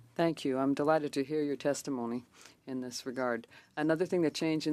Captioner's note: speaking French